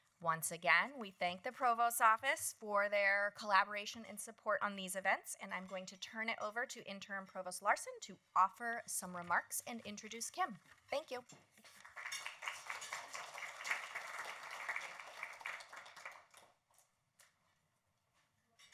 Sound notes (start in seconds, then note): 11.6 applause